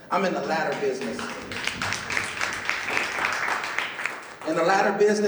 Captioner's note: clapping